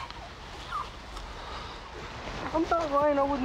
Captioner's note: whimpering